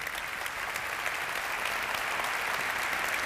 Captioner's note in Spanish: Aplausos